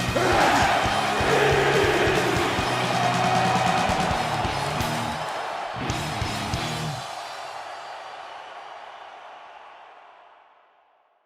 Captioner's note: crowd cheering